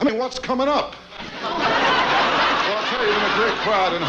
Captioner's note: audience laughs